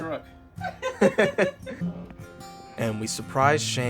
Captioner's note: laughing